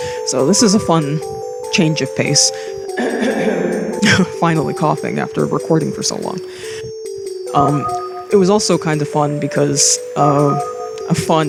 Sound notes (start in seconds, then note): 3.0 clears throat